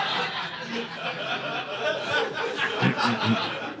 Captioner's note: audience laughing